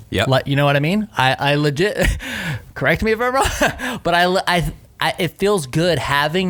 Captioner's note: laughs